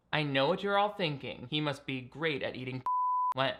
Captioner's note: beep